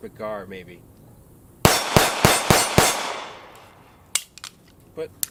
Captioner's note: gunshots